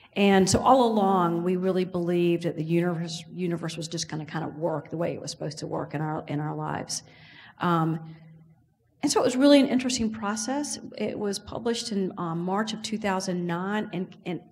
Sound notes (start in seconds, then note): none